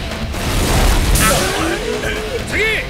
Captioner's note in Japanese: どよめき